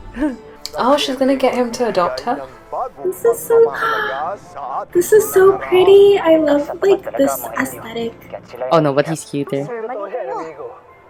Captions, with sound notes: Oh she's gonna get him to adopt her? This is so! *gasps!* This is so pretty! I love this aesthetic! Oh no, but he's cuter!